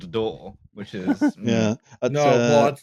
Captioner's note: laughs